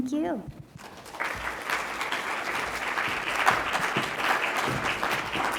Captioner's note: congregation clapping